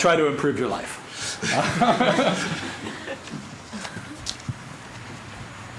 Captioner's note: laughter